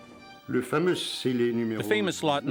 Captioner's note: speaks in foreign language